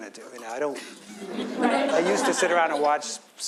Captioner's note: audience laughs